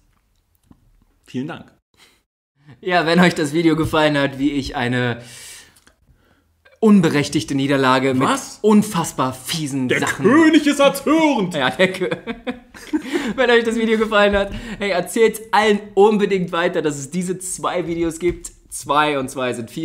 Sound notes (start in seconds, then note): 12.8 laughs